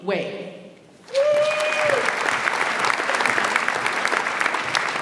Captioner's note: audience applauds